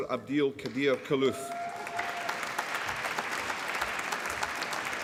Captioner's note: applause